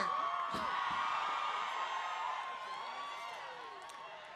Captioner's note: cheering